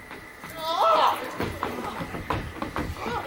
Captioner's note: Borachio cries in pain